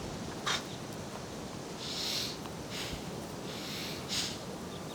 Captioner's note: man breathing loudly